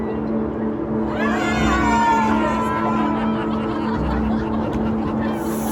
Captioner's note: cheering